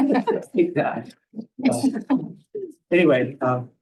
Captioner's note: laughter